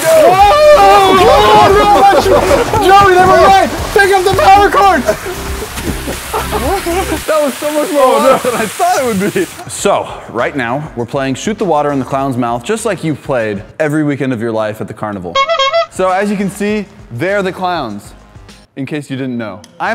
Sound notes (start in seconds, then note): 15.3 clown horn